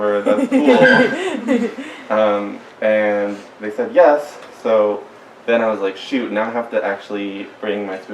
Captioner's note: giggles